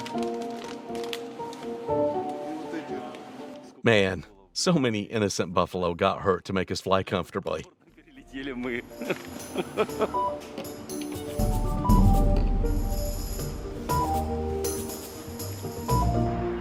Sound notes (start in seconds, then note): 8.9 laughing